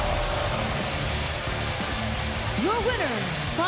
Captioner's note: cheers and boos